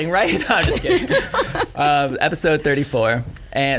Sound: laughing

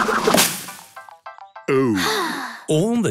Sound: Peppa sighing

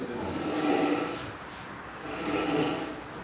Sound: slurping sound

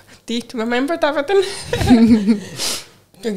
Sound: chuckles

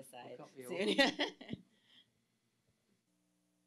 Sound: laughs

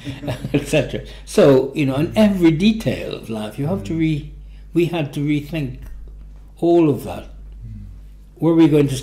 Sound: laughs

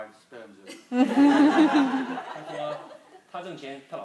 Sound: group laughing; speaking foreign language

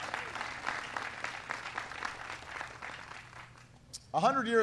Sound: applause

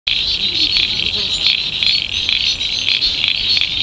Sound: frogs chirping

